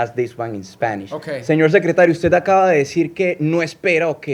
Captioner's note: speaking spanish